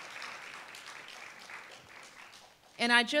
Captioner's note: applause